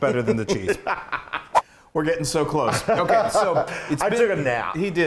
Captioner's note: laugh